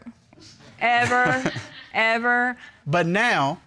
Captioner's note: chuckling